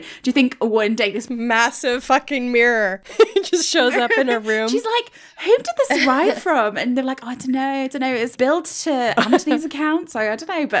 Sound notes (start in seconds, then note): 3.0 laughing